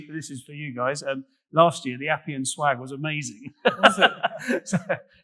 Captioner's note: laughing